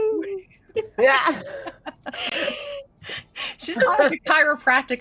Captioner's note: laughing